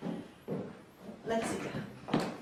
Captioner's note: heals clicking